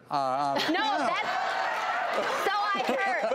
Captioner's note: audience cheers